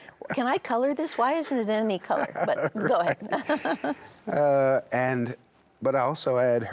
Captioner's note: laughs